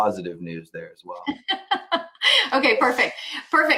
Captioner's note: laughs